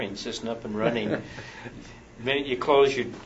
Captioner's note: laughs